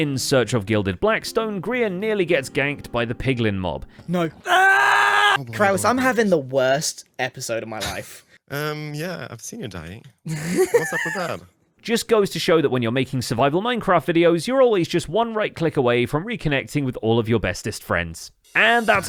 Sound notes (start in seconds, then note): 4.4 screams; 10.2 laughs